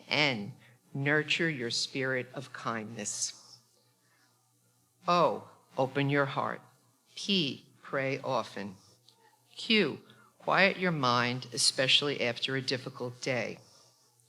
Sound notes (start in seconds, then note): none